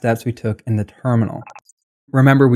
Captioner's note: beep